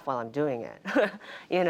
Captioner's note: laughter